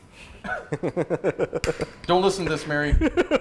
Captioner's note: laughter